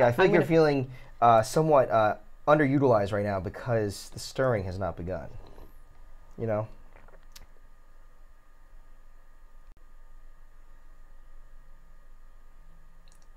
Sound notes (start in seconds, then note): 8.0 fan whirs